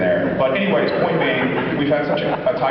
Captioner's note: laughs